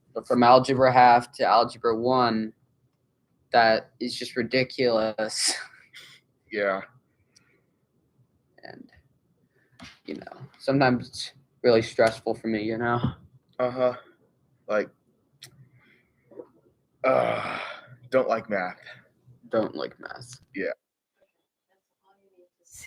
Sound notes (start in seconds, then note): 17.0 groans